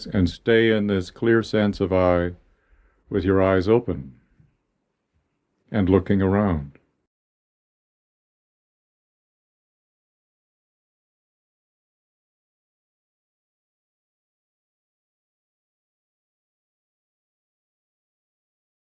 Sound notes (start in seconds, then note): 6.6 chanting